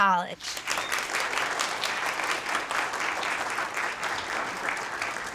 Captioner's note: audience applauding